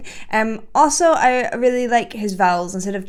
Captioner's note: none